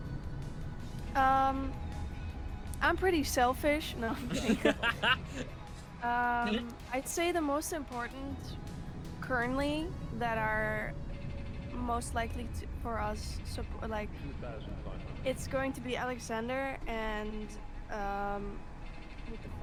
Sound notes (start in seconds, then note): 4.1 laughs